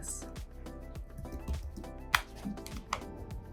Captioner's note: fingers tapping; hands clapping